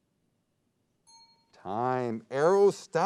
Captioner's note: ping